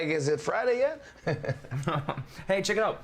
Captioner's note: laughter